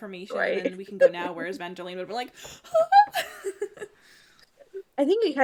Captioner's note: horrified whisper scream